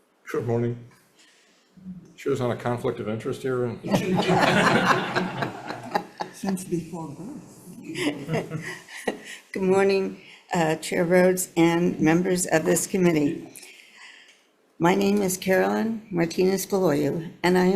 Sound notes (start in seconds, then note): 3.8 members laughing; 8.7 laughs